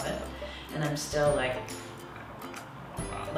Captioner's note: grumbles